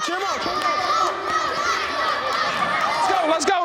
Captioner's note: cheering